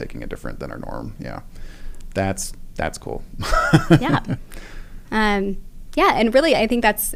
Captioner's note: laugh